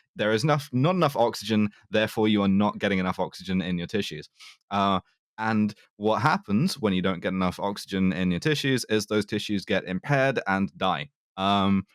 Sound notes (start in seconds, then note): none